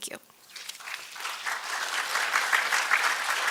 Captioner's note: applause